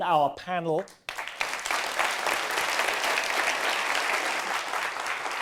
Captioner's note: audience applause